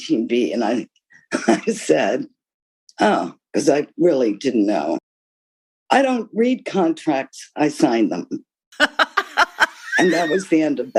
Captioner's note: laughter